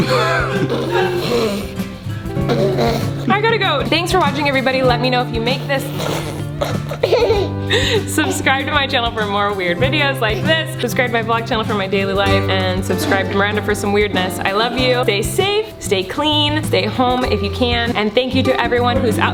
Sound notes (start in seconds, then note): 5.3 spitting and laughing